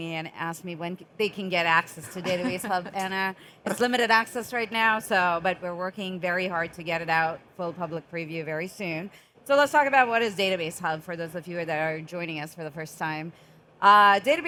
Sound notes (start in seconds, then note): 2.0 chuckling